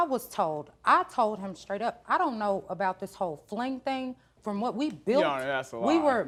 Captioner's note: none